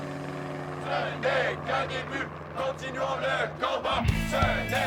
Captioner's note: people chanting